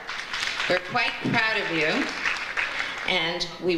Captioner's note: audience applauds